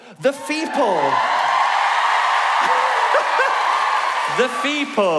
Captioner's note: pheople cheering